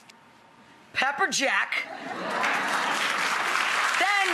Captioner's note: audience applauds